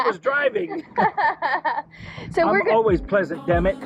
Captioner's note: both laugh